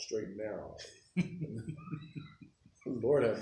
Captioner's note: chuckling